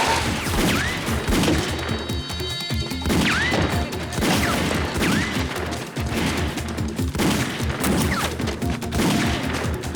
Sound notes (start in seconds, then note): 0.0 tires screech; 0.0 gunfire; 7.0 gunfire continues